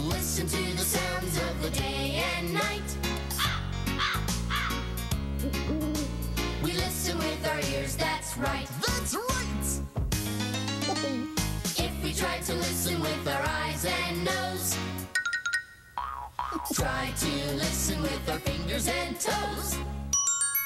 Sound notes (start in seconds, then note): 4.4 caw caw caw; 5.2 hoo hoo